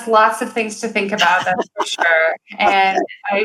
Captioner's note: laughing